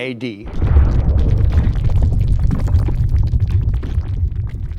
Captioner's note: hot lava flowing